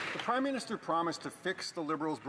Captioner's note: some Applause